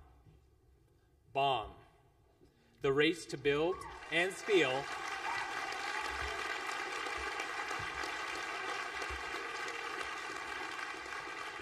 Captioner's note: applause